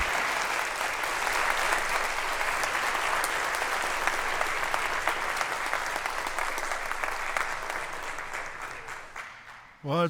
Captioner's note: applause